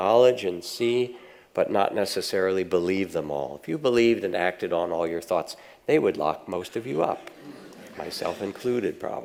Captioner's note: audience laughs